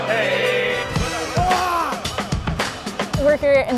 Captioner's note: man screams